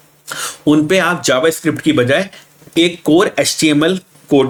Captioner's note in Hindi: नाक से की जाने वाली आवाज़; गला साफ़ करने की आवाज़